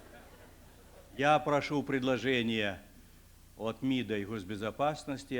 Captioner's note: non-english speech